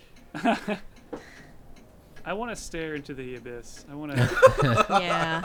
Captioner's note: laughs; group laughing